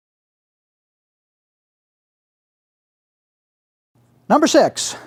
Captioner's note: silence